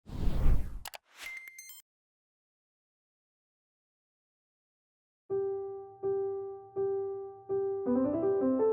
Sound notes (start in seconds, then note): 1.2 electronic beeping; 5.3 lively piano music